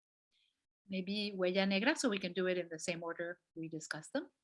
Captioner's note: non-english speech